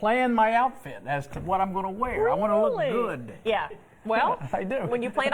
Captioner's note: laughter